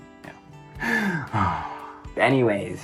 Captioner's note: dramatic sigh